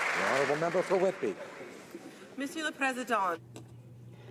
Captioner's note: some Applause